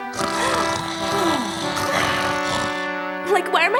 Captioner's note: heavy snoring